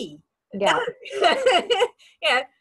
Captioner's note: laughs